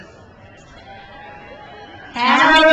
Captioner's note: crowd cheers